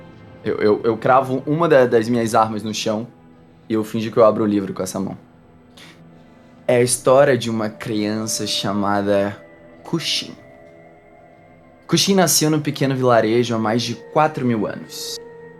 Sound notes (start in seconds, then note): none